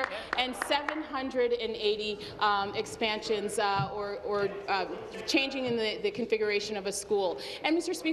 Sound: applause

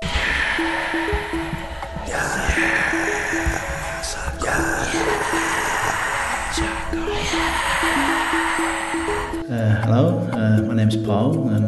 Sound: whispering

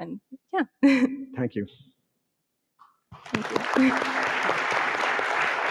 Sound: audience clapping

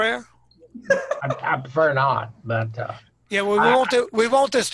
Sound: laughing

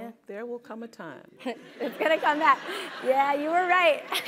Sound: laugh

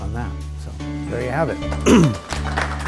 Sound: audience applauds; jazz music

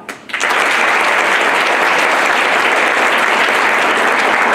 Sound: applause

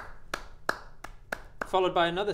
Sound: clap clap; clapclapclap; clap

